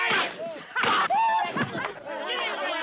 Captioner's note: all yelling; laughing